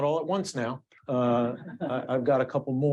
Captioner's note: audience laughing